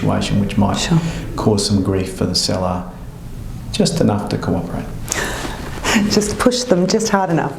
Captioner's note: laughter